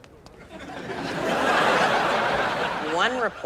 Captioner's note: audience laughs